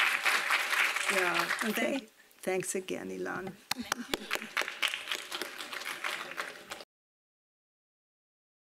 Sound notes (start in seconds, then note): 3.7 and audience clapping